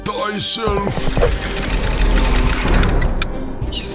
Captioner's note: chains rattling